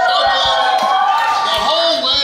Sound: crowd cheers

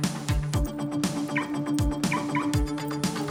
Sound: car alarm chirps

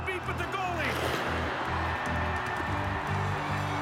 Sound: cheering

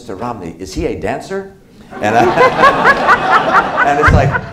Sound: laughter

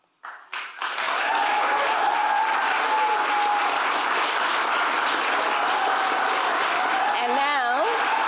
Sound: applause

